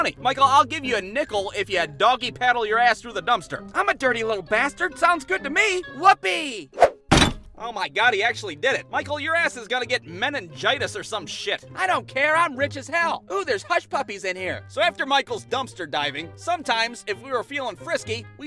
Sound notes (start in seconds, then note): 7.0 thud!